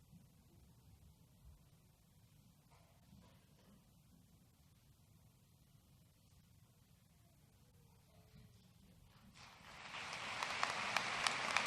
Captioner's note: applause